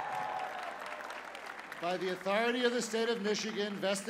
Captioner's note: cheers and applause